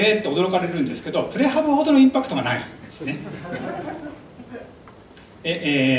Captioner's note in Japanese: 会場笑い